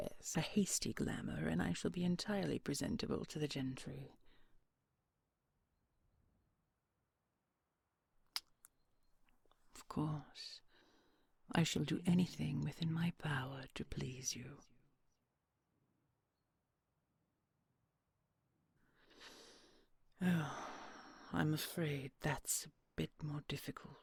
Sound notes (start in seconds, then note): 8.3 kiss